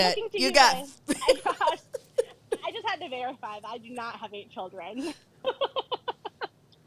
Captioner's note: laughs; laughs